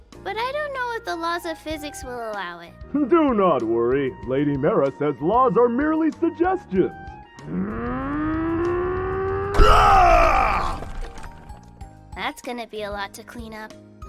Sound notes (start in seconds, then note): 7.4 grunting sounds; 9.5 explosion